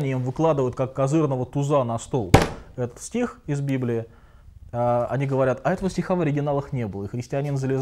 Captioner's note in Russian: стук